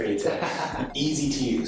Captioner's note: laughing